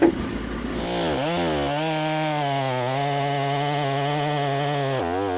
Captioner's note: chainsaw whirring